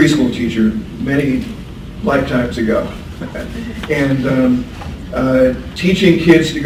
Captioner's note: laughs